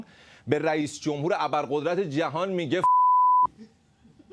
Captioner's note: beep